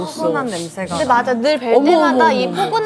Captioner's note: sniff attack